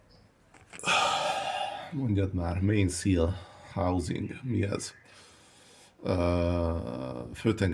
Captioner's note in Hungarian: sóhajtás